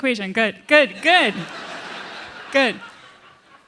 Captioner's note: laughter